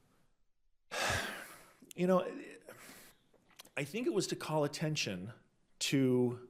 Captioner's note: sighs